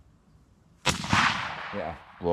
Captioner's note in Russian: выстрел